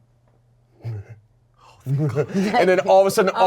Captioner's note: laughs